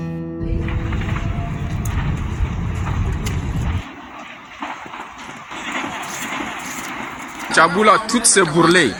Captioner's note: sonido fuego